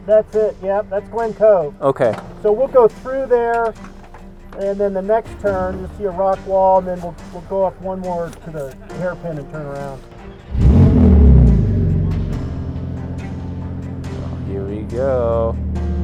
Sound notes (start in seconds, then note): 10.4 car engine purring; 15.8 suspenseful music